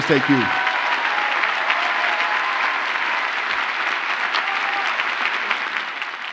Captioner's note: audience cheers and applauds